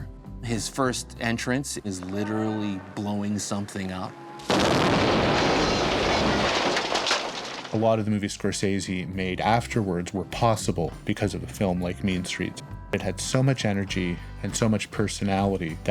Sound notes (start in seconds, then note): 4.4 bomb explodes